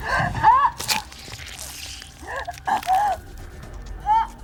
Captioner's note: dramatic music; Marie gasping